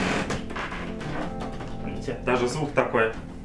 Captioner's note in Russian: очень сильный скрип пола